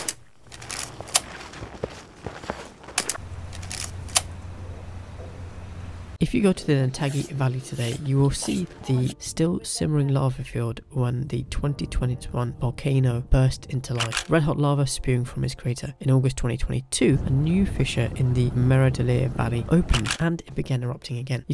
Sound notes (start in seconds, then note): 0.0 ambient Walking on Ice Sound; 3.0 ambient Night Sound